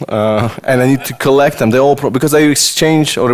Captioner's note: audience laughs